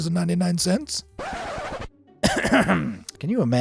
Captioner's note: record skipping; clears throat